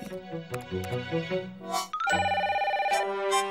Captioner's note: phone rings